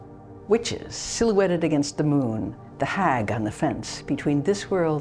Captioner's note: speaking normally